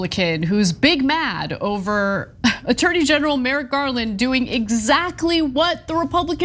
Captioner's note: laugh